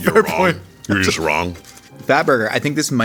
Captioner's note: laughing